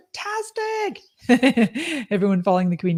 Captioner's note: laughs